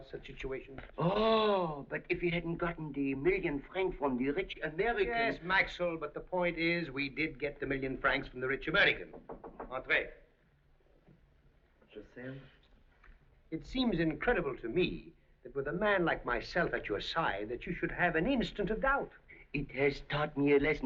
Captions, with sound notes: Oh, but if you hadn't gotten the million francs from the rich American-- Yes, Maxl, but the point is we did get the million francs from the rich American. [ Knocking ] Entrer. [ French ] It seems incredible to me that with a man like myself at your side... that you should have an instant of doubt. It has taught me a lesson, Victor,